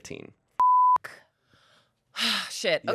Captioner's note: beep